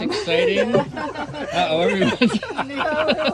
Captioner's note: laughing